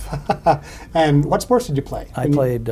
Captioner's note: chuckles